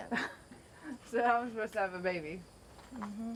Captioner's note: laughs